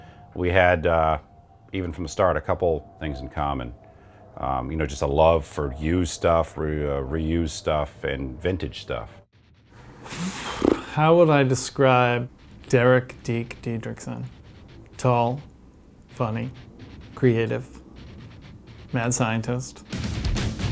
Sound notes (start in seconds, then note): 9.8 exhales